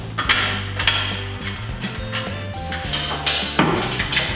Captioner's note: clanking